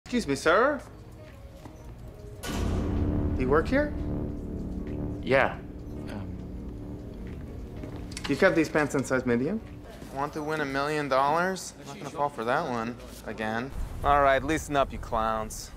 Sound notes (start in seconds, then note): 2.0 dramatic sound; 8.0 thickly accented